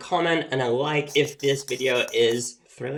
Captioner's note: chalk scratching